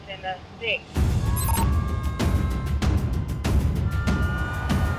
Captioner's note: siren wailing